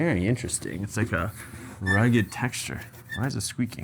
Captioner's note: hub squeaks